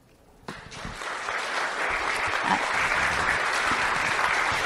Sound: applause

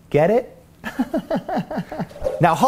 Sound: laughs

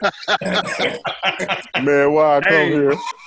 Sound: laughter

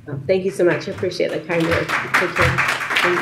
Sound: audience applauds

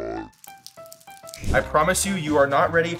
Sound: juice trickling

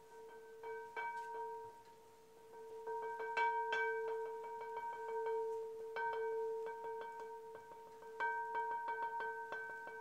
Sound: the chiming picks back up again

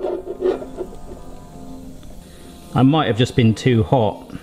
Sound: soft dramatic music; oil hisses softly

